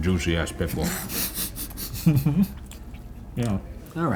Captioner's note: laughing